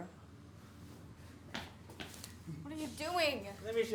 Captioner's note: footsteps echo